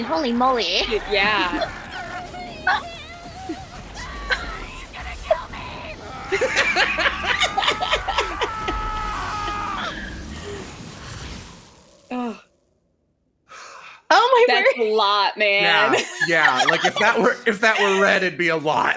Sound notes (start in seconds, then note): 3.5 screams; 6.1 loud screaming